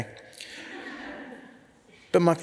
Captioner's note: audience laughs